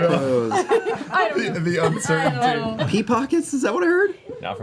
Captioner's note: laughs